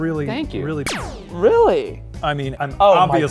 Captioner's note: pew noise